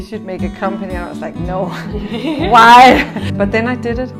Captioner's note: laughs